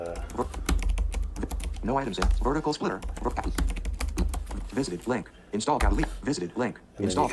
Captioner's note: computer voiceover